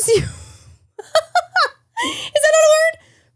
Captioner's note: laughing